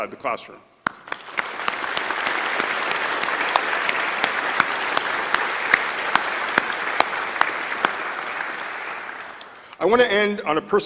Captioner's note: applause